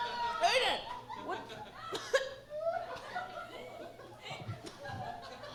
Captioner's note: coughs